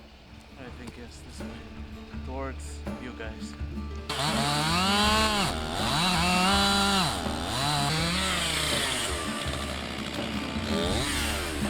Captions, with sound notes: I think yes this way, towards you guys. (engine revving)